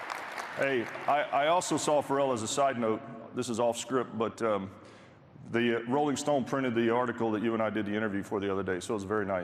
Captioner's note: applause